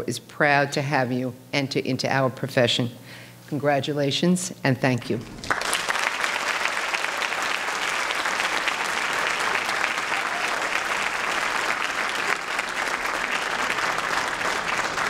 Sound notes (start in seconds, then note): 6.4 applause